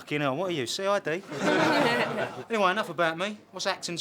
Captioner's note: laughter